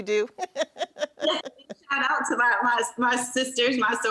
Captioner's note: laughs